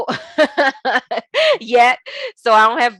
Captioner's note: laughing